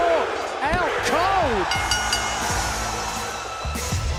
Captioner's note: bell ringing